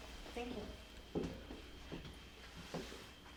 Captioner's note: crickets chirping